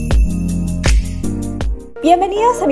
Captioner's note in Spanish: campana